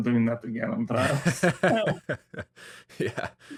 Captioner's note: hahahaha